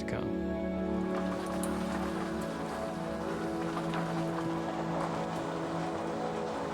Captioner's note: sound of golf cart on gravel road